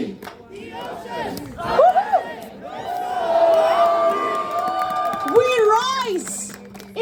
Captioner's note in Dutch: Gejuich